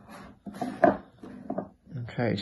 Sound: box bumping

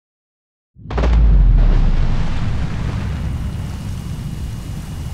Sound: splash

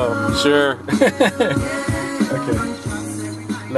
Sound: loughs

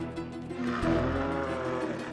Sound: growling

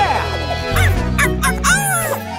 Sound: barking

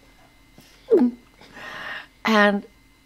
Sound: Rita gulps

